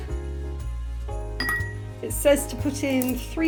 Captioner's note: clink of ice